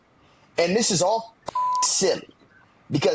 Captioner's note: beep